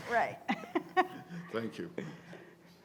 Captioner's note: laughs